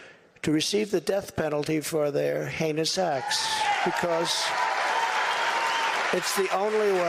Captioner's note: applause